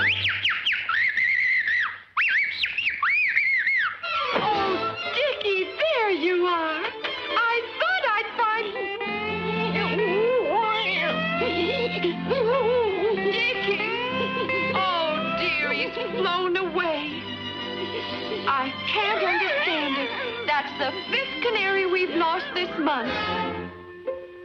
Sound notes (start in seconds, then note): 0.0 Rudolph whistling cheerfully; 8.7 Rudolph whimpering